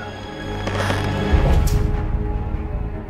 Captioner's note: creek